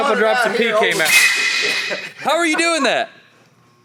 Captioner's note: air gushing